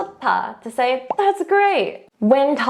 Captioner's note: speaks in Korean; bubble popping